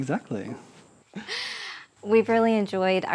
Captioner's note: both chuckling